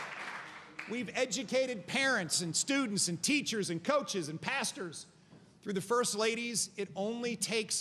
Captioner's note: applause